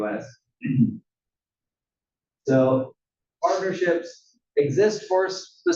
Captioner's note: cough